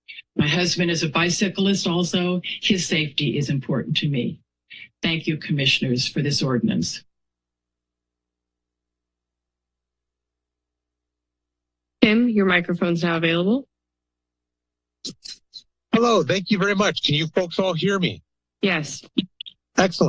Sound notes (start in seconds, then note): 7.3 silence; 13.9 silence